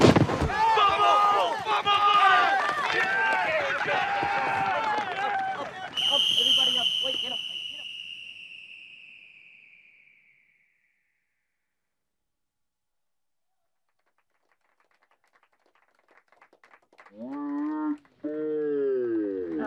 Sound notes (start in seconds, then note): 2.2 crowd cheers; 5.9 whistle blowing, grows more faint